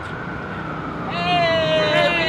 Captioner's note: siren crying